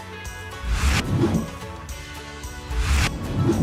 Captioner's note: computer digital swoosh